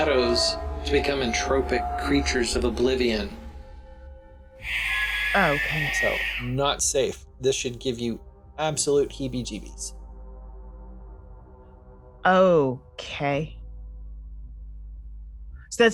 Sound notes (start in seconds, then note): 4.6 Spectres screech menacingly